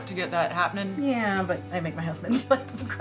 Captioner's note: laughs